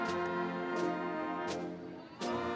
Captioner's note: none